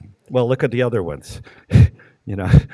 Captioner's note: laughing